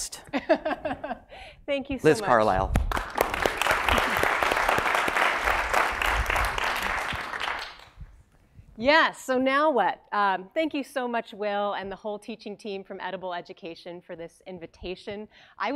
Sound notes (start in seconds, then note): 0.4 laugh; 7.1 applause